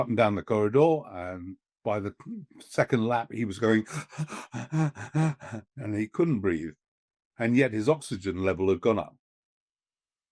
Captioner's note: panting